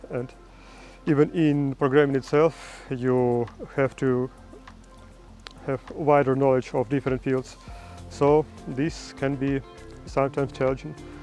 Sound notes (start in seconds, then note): none